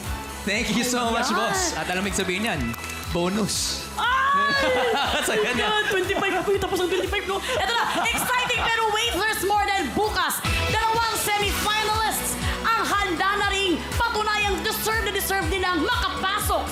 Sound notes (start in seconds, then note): 4.2 laughs